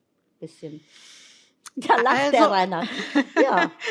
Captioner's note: laughs